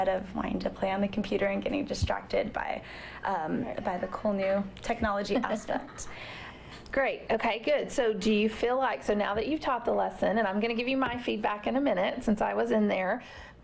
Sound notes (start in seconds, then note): 5.3 laughter